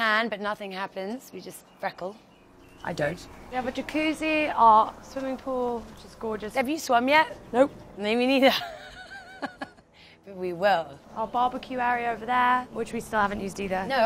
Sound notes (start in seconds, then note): 8.4 laughs